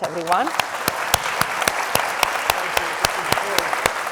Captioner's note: audience applauding